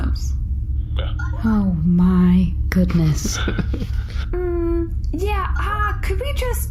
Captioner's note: quietly